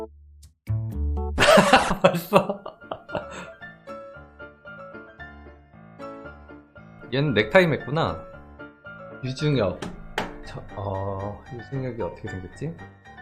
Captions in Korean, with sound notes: 크하하하핫 벌써! (웃음) 얘는 넥타이를 맸구나? 유중혁... 어.. 유중혁이 어떻게 생겼지?